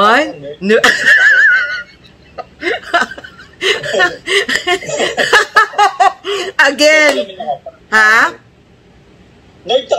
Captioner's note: laughter